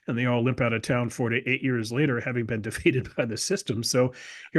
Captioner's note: laugh